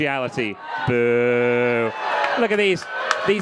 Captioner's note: crowd clamoring